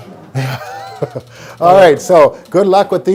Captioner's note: laughs